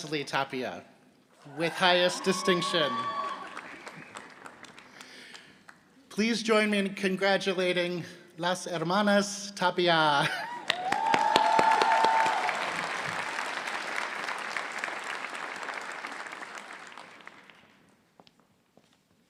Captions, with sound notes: Please join me in congratulating las hermanas (Applause)